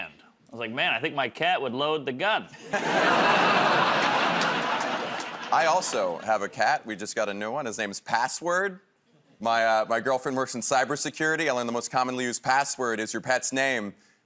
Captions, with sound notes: I was like, "Man, I think my cat would load the gun." [ Laughter ] -I also have a cat. We just got a new one. His name is Password. My girlfriend works in cyber security, and the most commonly used password is your pet's name.